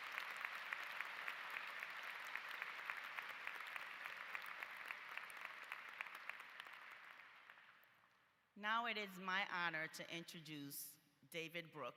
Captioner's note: applause